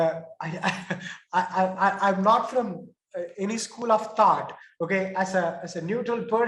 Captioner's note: chuckles